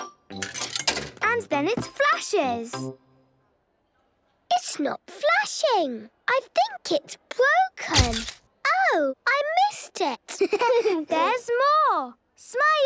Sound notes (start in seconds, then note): 0.4 coin tumbling; 8.2 camera clicks; 10.3 giggling